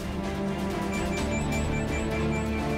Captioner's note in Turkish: Telefon çalıyor